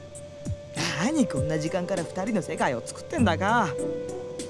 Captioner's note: sigh